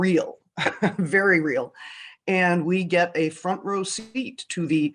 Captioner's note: laughs